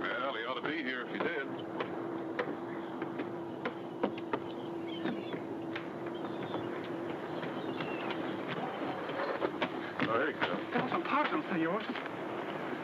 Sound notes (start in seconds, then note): 2.0 footsteps shuffle; 9.4 footsteps thud